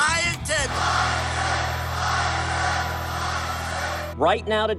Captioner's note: crowd